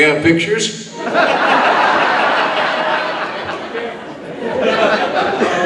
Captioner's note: audience laughing